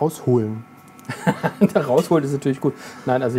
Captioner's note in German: lachend